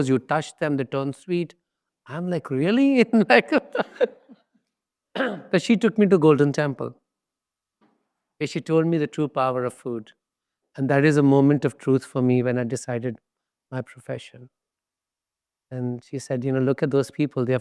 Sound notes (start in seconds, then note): 3.4 laughs; 4.5 audience laughs